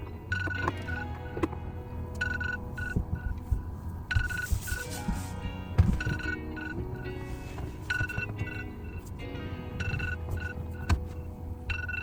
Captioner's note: alarm sound